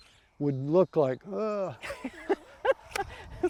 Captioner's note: laughs